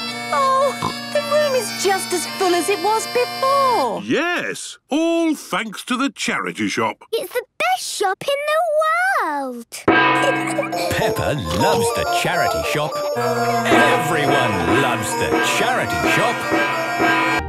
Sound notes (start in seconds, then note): 10.1 kids giggling; 16.0 dissonant music